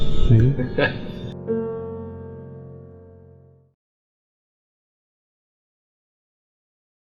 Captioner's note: gentle piano music; laughing